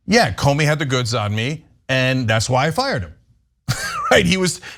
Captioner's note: laugh